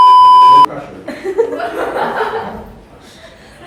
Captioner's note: beep sound effect; chuckles; giggles